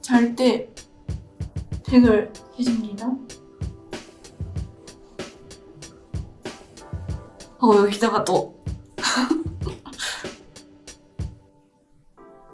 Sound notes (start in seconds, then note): 1.5 foreign language continues; 1.5 gentle music continues